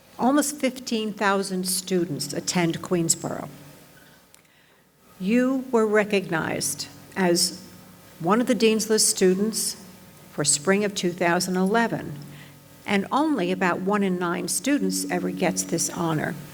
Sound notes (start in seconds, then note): none